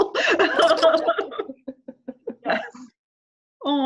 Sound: laugh

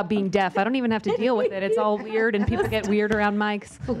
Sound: laughter

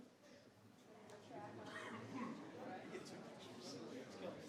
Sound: group chattering

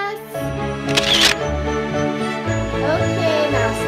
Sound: camera clicking

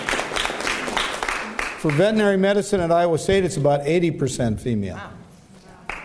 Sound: applause; applause

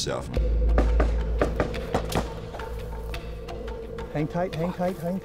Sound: gunfire

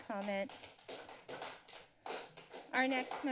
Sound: applause

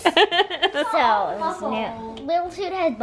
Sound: laughing

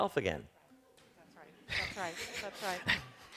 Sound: chuckles

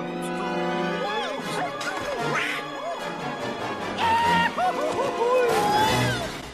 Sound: the sound of three chaotic nerds falling from several stories high

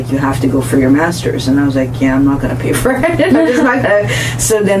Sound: laughs

